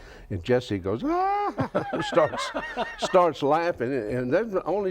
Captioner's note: laughs